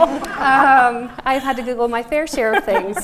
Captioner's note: laughing